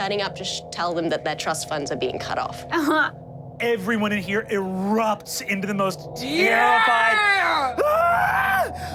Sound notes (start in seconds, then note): 2.6 laughs; 6.2 screams; 6.5 screams loudly